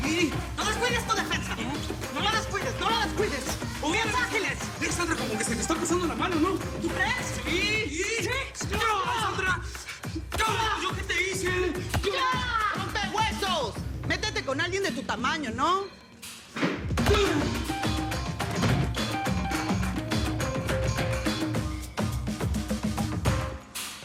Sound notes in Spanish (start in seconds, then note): 3.6 Hablan al unísono; 8.4 Gritos; 11.7 Gritos